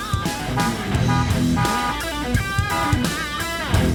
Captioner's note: car horn still continues